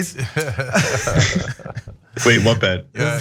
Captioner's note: laugh